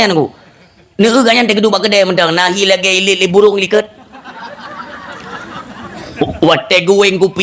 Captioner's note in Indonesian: tertawa